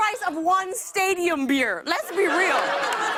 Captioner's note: laughter